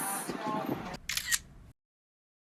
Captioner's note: camera Shutter